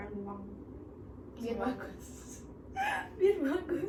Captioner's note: laughs